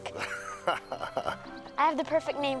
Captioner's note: Bill laughing